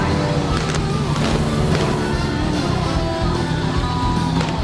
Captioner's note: guns popping